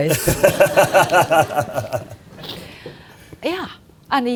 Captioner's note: audience laughing